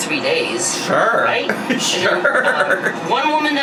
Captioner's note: laughs